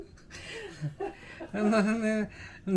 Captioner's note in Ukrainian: сміх